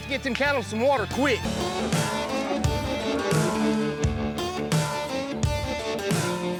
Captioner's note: mooing